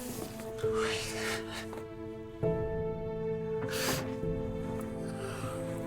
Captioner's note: crying